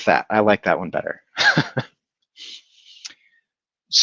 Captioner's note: laughs